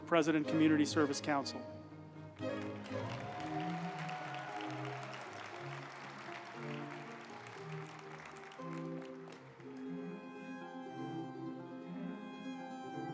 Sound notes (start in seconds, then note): 2.3 uplifting music; 2.3 group applauding